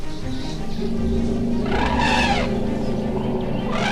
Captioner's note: trumpeting; animals calling; trumpeting continues